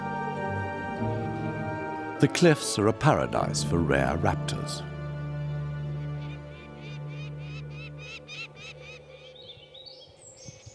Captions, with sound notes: The cliffs are a paradise for rare raptors. [bird chirping]